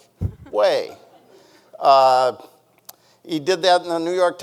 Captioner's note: people chuckling